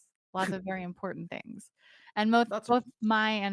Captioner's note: Cornette laughs